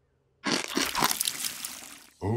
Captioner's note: chomping sound